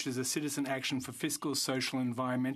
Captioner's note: speaking French